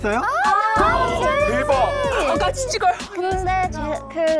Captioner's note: lukewarm sound effect